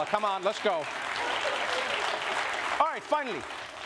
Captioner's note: applause